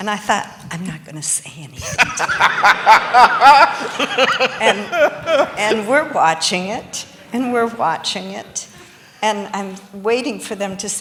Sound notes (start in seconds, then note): 1.8 laughter